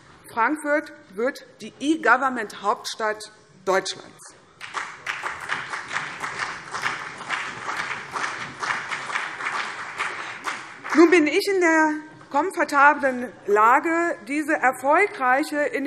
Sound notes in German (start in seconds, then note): 4.6 Beifall CDU und BÜNDNIS 90/DIE GRÜNEN